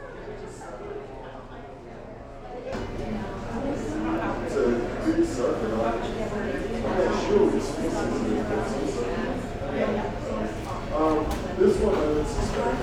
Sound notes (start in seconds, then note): 0.2 large crowd chatter; 5.9 large crowd chatter